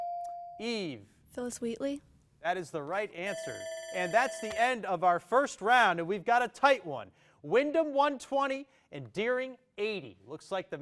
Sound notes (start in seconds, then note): 0.2 bell dings; 3.2 alarm ringing